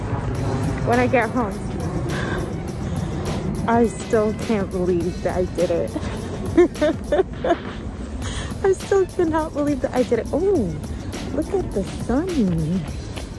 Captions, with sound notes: when I get home. *huffs* I still can't believe that I did it! *laughs* I still cannot believe that I did it. Oooh! Look at the sun!